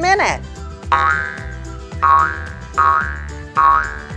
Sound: Possum boings

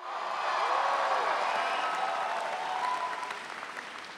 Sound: audience cheering

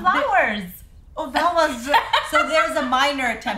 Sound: laughter

